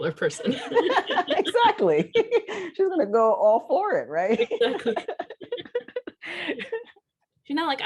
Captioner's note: laughter; laughter